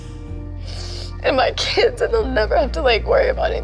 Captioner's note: sniffles